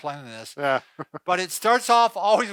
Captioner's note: chuckling